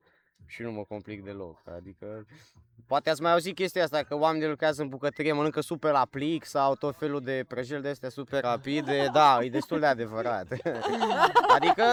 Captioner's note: everyone laughs